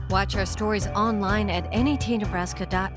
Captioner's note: voiceover